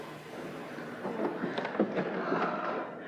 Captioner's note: heavy breathing